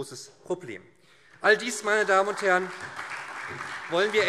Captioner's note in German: Beifall SPD